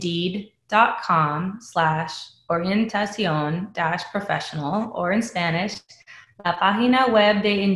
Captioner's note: speaking spanish